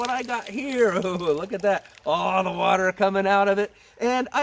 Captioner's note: chuckles